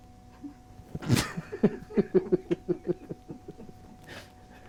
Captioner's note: people laughing